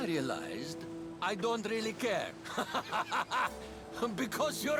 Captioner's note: laughs